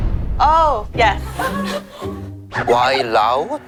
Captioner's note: laughter from all around